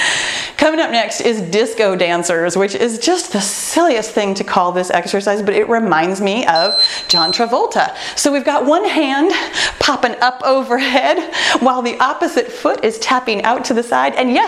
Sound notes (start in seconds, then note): 6.5 timer beeping